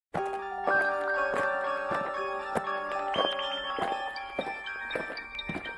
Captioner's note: aliens marching; eerie music